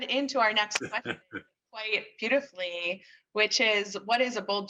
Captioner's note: laughs